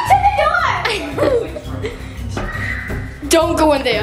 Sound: chuckling

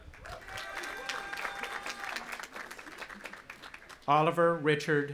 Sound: audience applauding and cheering

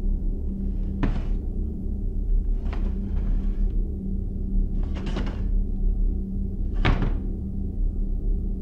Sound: furniture moving around

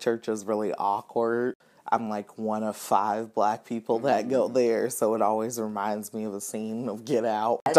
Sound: laughs

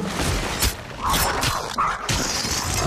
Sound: growls

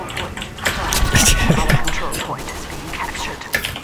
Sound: laughing

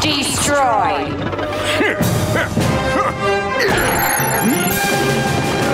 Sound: grunting

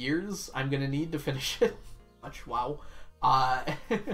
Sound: laughs

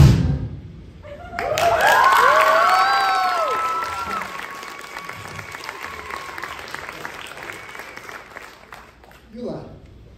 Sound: applause

